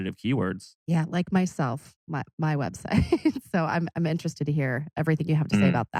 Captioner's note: laughs